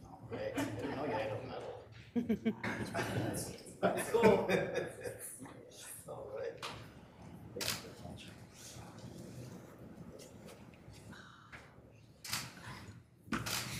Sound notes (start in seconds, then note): 3.9 laughs